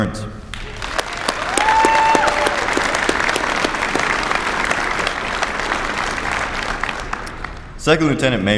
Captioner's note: applause